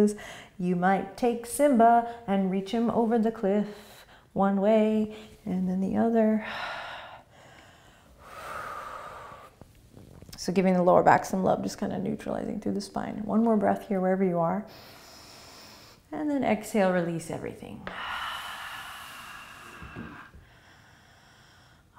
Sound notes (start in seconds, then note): 6.4 breathing; 14.7 breathing; 17.9 exhaling